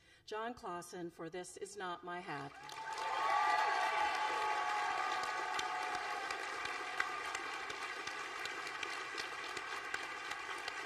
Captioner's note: applause